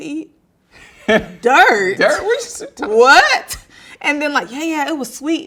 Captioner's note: laughing